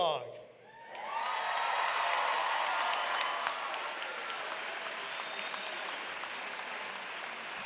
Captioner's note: applause